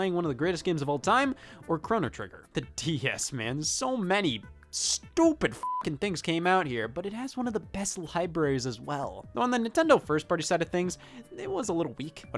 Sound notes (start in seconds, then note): 5.5 beep